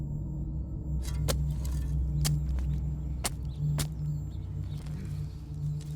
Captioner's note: shovel thudding and scraping